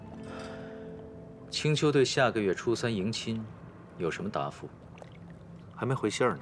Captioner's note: sigh